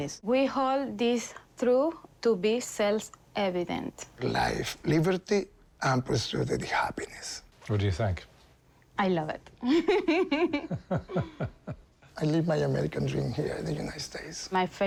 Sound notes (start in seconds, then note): 9.6 both laugh